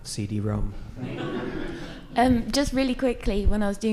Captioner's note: audience laughing